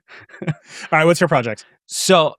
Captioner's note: laughing